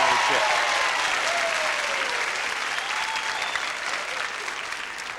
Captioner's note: audience cheering